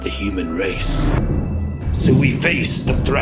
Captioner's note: winds whooshing